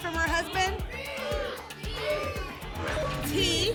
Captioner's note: audience shouting letters